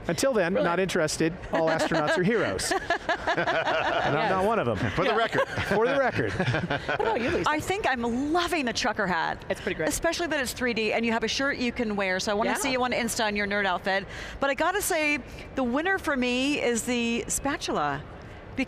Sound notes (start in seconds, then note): 1.5 panelists laughing